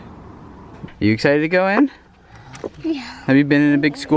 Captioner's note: yawns